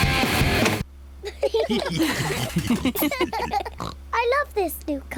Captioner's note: all laughing